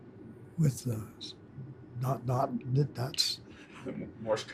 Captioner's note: chuckles